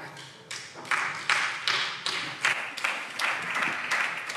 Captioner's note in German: Beifall SPD